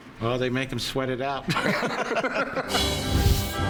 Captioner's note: laughs